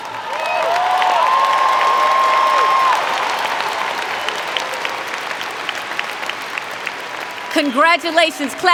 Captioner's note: applause & Cheer